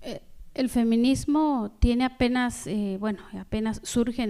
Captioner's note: speaking spanish